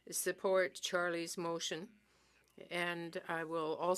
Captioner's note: speaking French